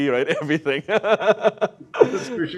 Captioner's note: laughs